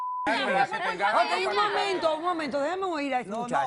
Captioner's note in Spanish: Bip